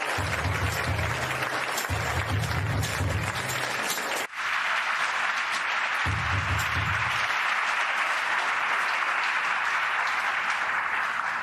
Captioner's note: applause